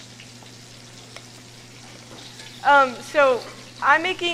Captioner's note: pan sizzling